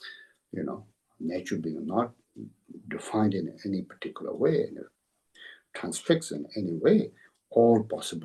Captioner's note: tibetan